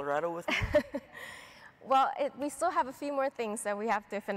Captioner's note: chuckles